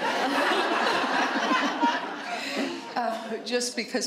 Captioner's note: laughter